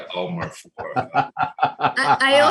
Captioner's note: laughing